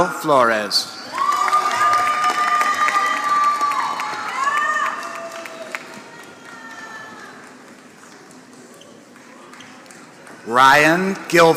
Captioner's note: applause